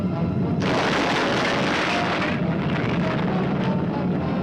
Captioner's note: explosion booming